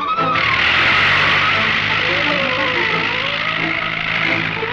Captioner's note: plane engine roars